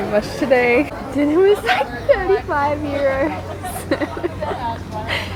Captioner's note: laughs in fear